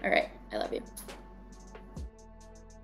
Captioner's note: blows kiss